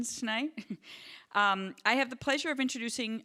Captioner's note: chuckling